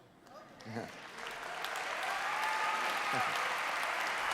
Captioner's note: applause